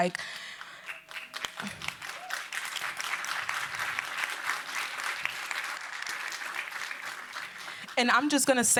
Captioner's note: applause